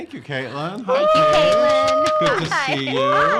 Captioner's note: cheering